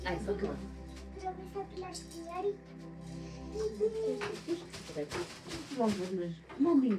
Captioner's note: speaking in foreign language